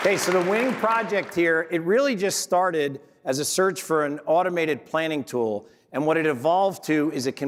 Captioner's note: applause